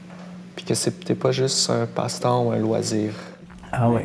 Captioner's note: laughs